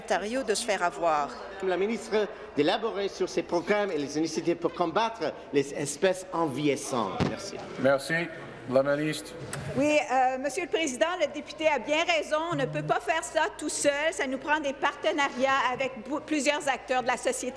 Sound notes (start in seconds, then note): 2.7 speaking in French